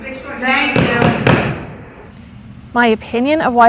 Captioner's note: pounding gavel